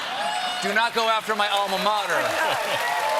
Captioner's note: cheers and applause